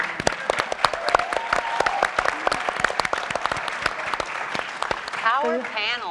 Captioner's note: audience and panelists applauding